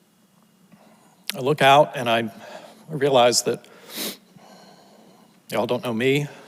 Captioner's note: sniffles